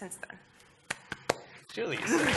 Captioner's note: applause